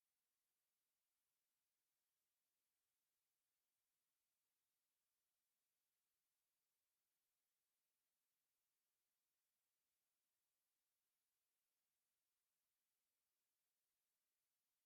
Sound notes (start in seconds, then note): none